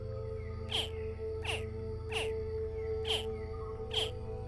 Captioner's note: crocodiles chirping